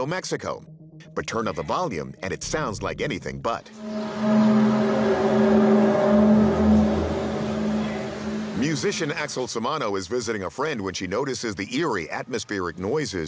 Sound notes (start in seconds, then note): 3.8 groaning sound